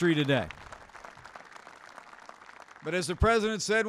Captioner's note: applause